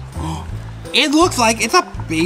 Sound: gasps

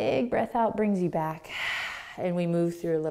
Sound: exhaling

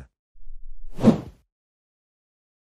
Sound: FX - Whoosh - 03

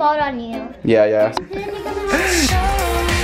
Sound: laughing; upbeat music

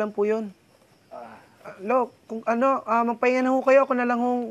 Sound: grandpa groans

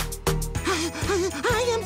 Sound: heavy breathing

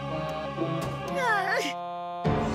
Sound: whimpering

